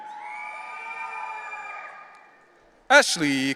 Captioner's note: audience cheering